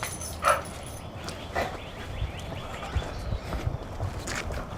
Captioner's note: birds chirping